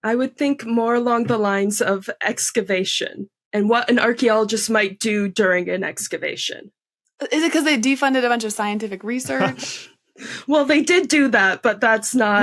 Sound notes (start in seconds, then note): 9.2 chuckles